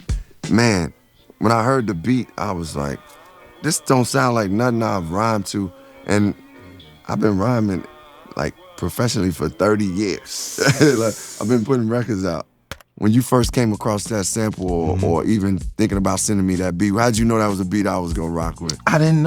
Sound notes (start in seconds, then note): 10.4 chuckles